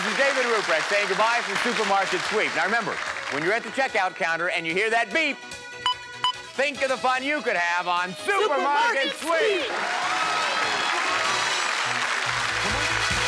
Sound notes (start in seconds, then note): 5.8 beeping; 10.1 cheers and applause